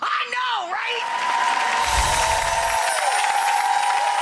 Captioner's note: crowd clapping nd cheering